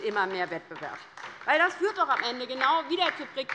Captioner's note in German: Beifall bei der LINKEN